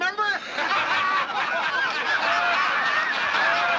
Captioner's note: laughter